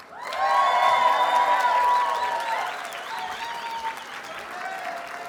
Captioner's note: audience cheers and applauds